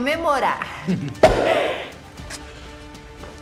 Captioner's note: Sotto Voce chuckles; cork pops